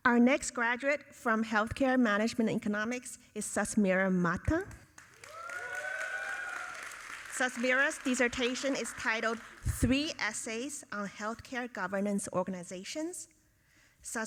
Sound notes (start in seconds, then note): 5.0 audience applauding